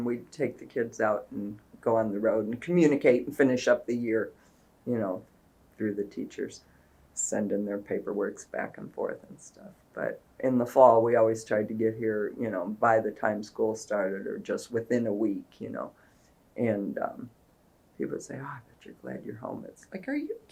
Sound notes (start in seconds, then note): none